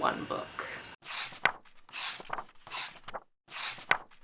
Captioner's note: pages turning